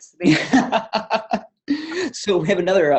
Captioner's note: laughter